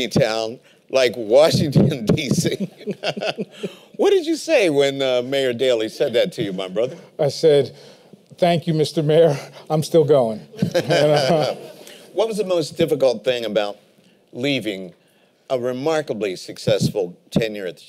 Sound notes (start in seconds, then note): 2.5 laughter; 10.5 laughter